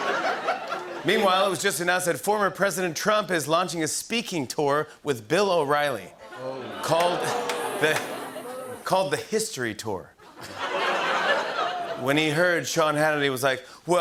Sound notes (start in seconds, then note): 6.2 audience groans; 10.2 laughter